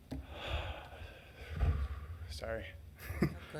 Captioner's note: sighs